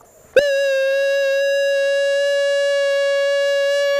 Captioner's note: howling